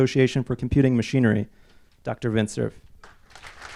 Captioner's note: clapping